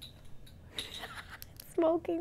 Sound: laughs

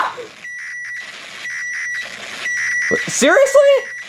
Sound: microwave beeping

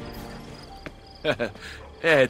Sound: Volpe laugs

